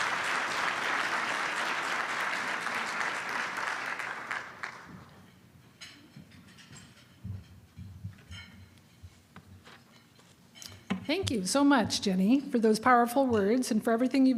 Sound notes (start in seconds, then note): 3.2 applause